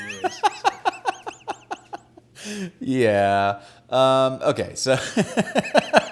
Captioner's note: laughing